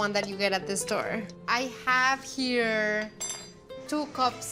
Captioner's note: spoon clanks